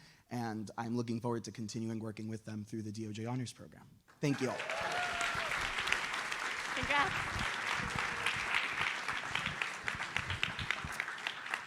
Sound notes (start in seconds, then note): 4.2 audience applauds